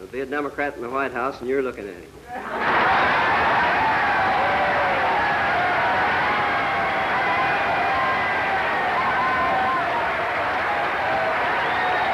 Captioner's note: cheering and applause